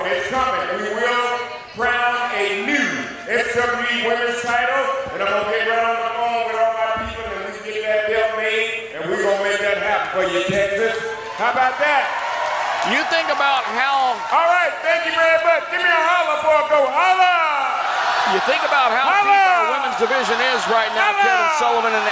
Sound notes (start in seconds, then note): 11.6 audience cheers; 16.8 audience hollers